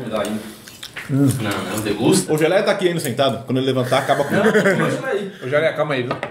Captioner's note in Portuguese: risos